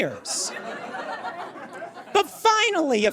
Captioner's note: audience laughs